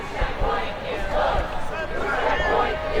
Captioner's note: crowd